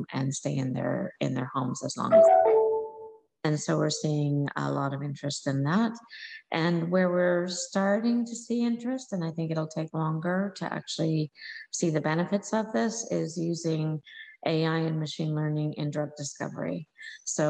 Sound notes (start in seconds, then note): 2.1 computer chiming